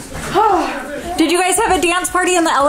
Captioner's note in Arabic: تتنهد سافانا